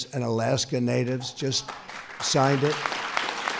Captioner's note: applause